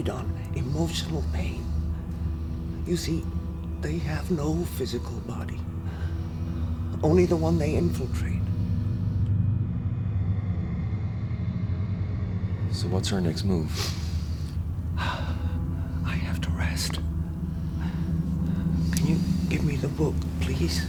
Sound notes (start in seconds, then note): 9.8 low growling; 13.6 sighs